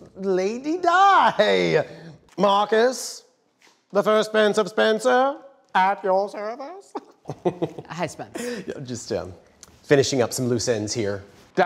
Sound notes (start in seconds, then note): 2.4 imitating British accent; 7.0 chuckles